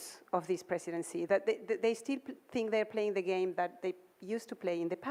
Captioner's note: none